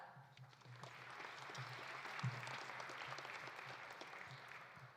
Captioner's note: audience applauding